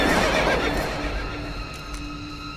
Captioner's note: gunshot; horse neighs